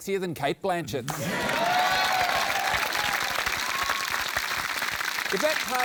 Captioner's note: cheering, applause